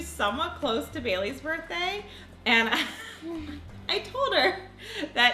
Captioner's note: laughs